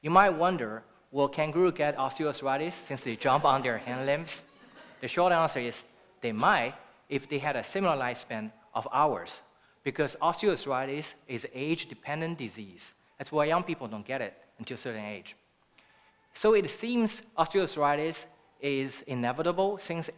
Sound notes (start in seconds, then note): 3.2 laughter